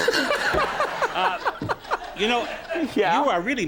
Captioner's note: Conan laughs